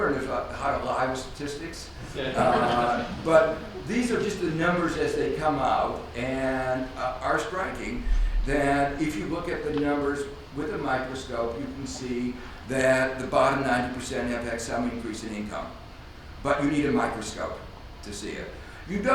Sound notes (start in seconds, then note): 2.1 audience laughs